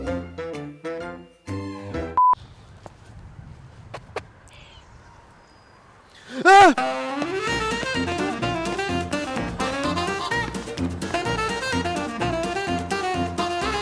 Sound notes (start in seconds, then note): 0.0 fun music; 6.2 yells; 6.8 playful upbeat music